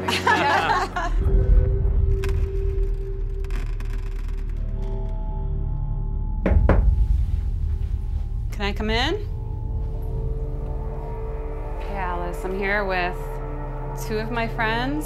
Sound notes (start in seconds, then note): 0.0 laughter; 6.4 knocking